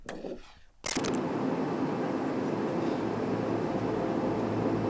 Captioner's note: traffic whirring